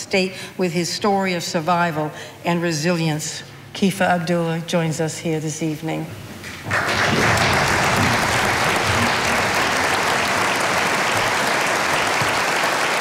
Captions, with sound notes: with his story of survival and resilience. Kifah Abduallah joins us here this evening. (audience applauding)